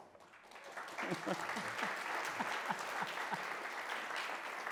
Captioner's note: audience claps